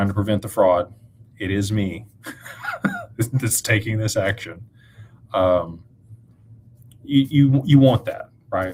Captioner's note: laughter